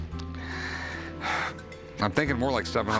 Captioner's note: sighs